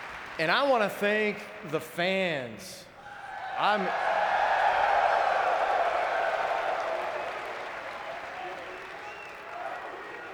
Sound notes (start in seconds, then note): 3.1 audience cheering